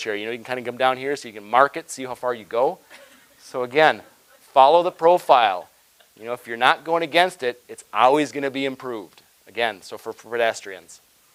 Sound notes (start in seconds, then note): 2.9 audience chuckling